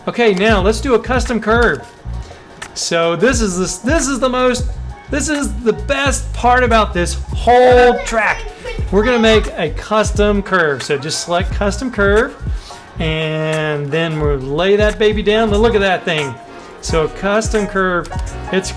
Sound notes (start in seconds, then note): 8.9 child faintly speaking